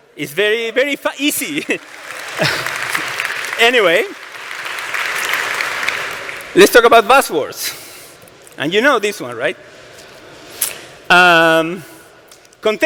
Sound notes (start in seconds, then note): 4.6 applause